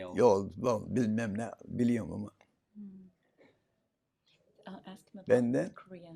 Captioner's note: foreign language